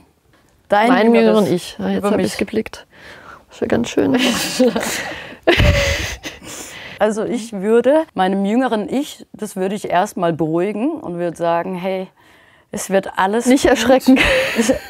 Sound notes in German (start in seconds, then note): 4.1 Sie lachen